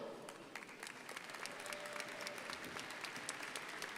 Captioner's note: crowd applauding